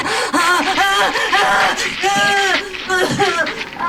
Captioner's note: she screams